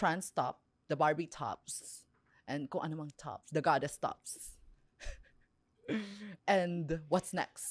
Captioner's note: laughs